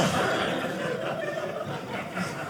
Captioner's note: audience laughing